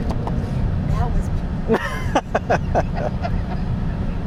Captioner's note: laughing